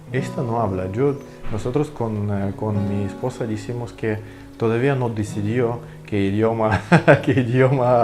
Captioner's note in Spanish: ríe